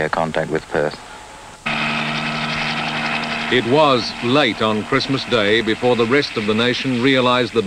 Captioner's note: sound of helicopters